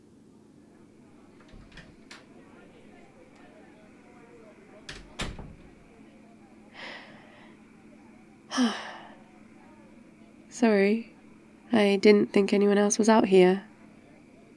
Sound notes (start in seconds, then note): 5.9 nighttime ambience throughout; 5.9 sighs